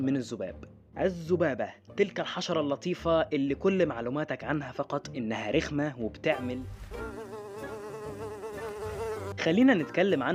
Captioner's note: fly noise